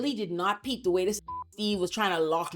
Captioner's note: beep